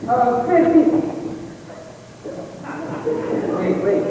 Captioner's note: laughter